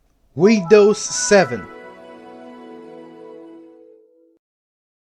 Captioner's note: The glorious Windows 7 sound